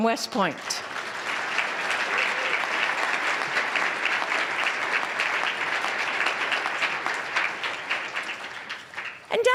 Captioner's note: applause